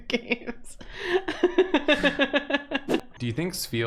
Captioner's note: chuckle